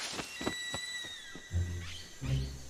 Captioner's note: birds screeching